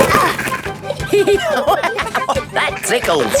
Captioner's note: giggling; laughing